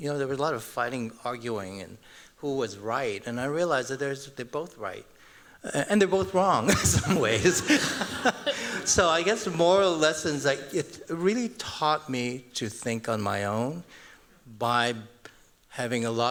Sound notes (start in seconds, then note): 6.6 laughter